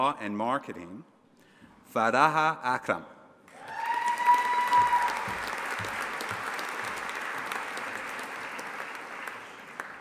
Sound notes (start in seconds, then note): 3.5 audience applauding and cheering